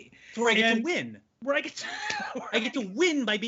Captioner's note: laughing